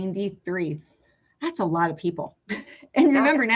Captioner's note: laughs